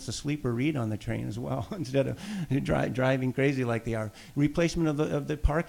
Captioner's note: laughs